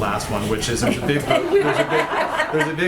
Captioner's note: laughter